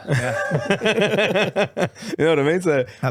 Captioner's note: laughing